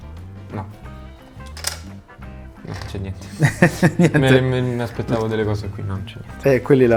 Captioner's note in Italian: risate